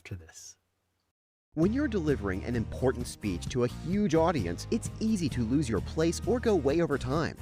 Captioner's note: voiceover